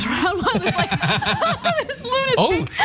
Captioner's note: laugh